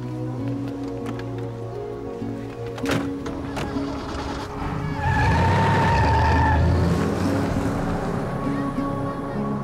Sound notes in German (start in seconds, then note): 3.4 Motor startet; 5.4 Reifen quietschen